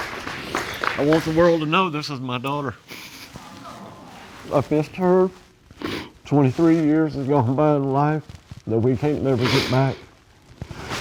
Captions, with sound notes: I want the world to know this is my daughter. (AUDIENCE SIGHS) I've missed her. Twenty-three years have gone by in her life that we can't ever get back.